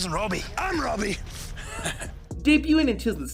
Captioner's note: chuckling